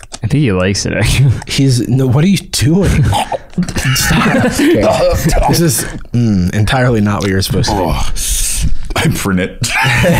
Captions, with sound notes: - I think he likes it, actually. - He's – what are you doing? - (horrifying eating sounds) - OK. This is – mm. Entirely not what you're supposed to do. I print it.